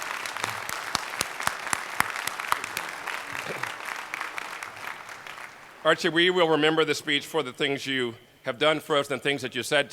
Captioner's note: applause